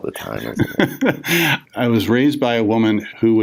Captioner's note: laughs